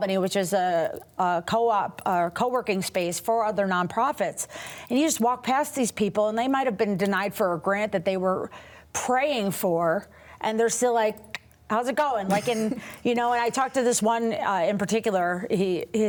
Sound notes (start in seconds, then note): 13.0 laughs